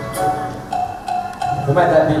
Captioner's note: knock, knock